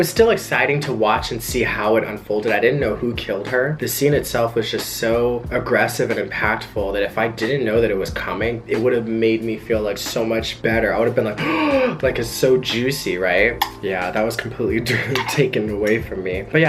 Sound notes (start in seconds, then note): 11.4 gasps